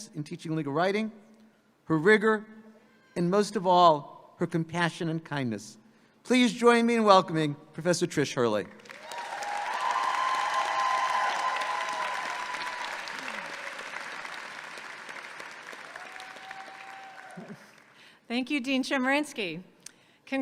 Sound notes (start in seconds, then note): 8.8 audience cheers and applauds